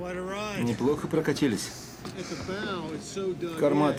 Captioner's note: laughs